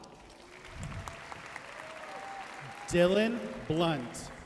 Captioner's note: audience cheering and applauding